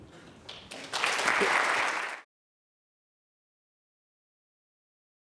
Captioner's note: audience applauding